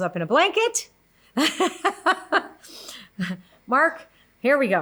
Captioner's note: laughs